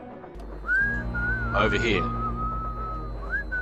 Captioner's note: whistling